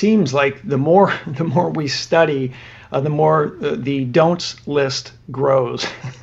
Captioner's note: laughs